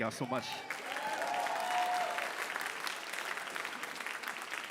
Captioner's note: audience applauding